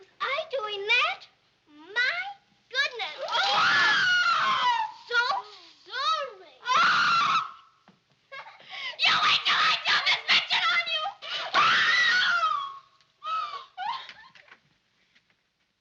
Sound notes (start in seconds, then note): 3.2 girls screaming; 11.7 screaming